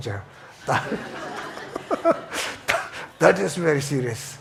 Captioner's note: audience laughs